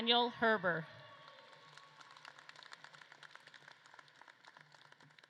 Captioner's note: audience claps and cheers